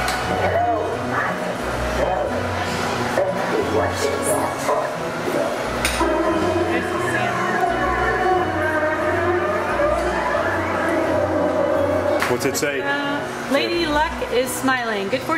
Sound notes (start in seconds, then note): 0.1 machine speaking; 6.9 digital whooshing